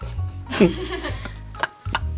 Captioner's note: chuckle